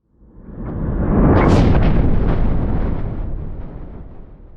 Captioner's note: thunder crashing